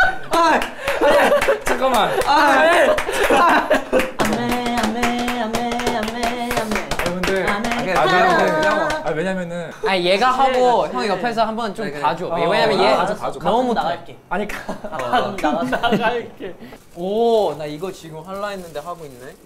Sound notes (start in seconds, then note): 3.1 cracking up